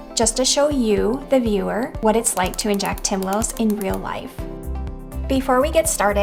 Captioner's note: pen clicking